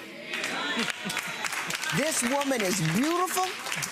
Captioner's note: audience applauding